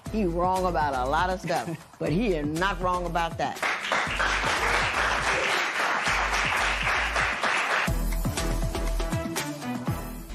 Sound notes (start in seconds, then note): 3.5 applause